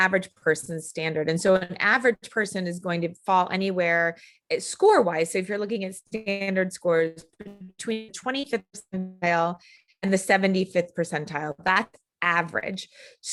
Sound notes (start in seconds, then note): 7.3 audio cutting out